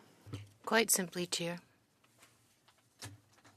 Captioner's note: speaking French